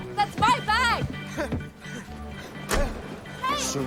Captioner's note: panting